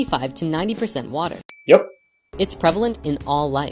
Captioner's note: ding!